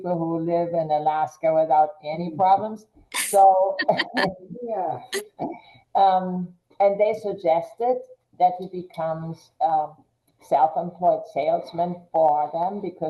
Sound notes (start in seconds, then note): 3.8 people laughing